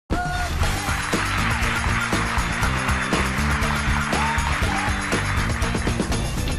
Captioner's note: upbeat music; crowd applauds